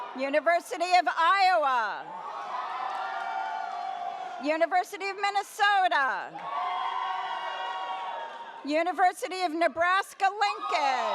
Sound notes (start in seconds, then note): 0.0 audience cheers; 2.0 audience cheers; 6.3 audience cheers; 10.3 audience cheers